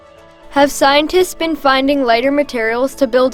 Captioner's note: voiceover